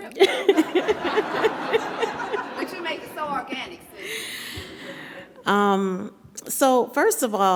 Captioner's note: audience laughing